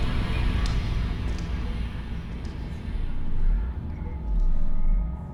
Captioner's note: water splashing; eerie music